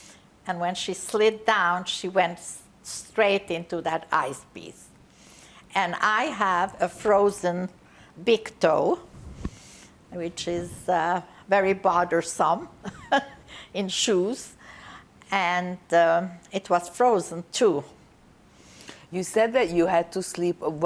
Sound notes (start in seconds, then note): 12.8 laughing